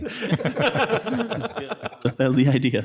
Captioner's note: people laughing